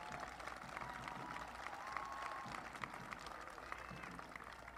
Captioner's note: applause